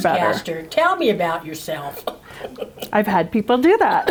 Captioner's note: laughs